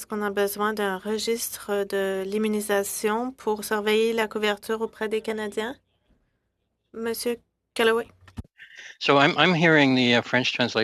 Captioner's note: speaking French